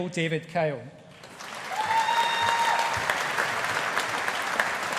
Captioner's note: audience applauding